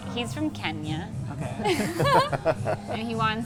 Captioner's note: laughing